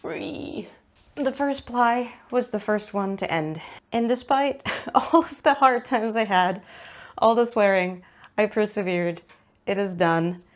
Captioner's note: laughs